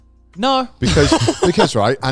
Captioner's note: laughing